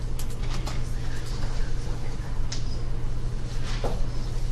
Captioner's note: whispering